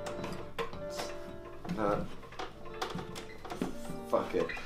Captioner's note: plastic jostles